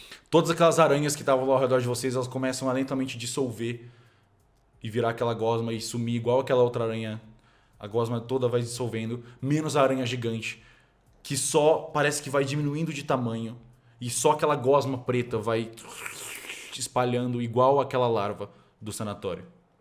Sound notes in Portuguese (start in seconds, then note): 15.7 som da gosma dissolvendo